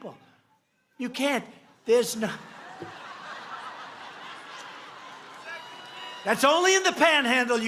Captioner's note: laughs